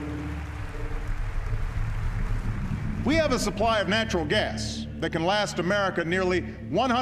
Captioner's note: audience applauding